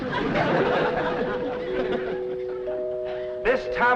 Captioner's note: doorbell rings